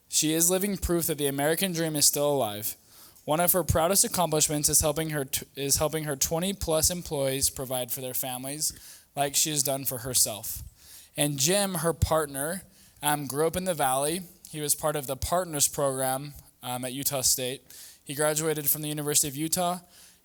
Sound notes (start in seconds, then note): none